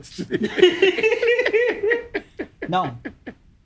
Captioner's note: laughing